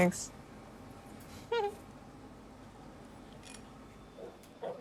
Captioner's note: background chatter